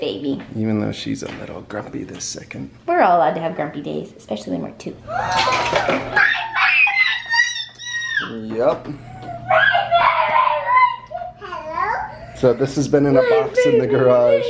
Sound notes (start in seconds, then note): 5.1 gasping; 9.2 yelling